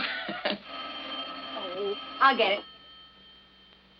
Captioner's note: laughs; telephone rings